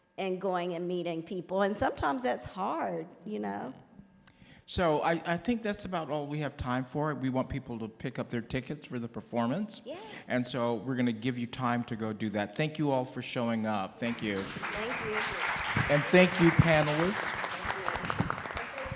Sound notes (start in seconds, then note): 14.0 audience applauds loudly